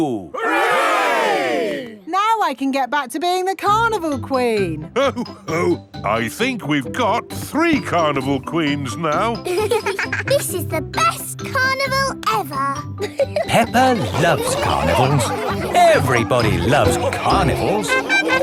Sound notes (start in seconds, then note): 10.0 both giggling